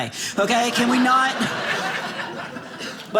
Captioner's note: audience laughing